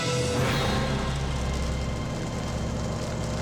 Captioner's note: crescendo; propeller whirring